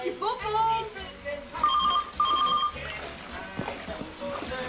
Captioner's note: telephone rings